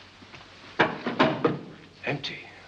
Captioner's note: box clatters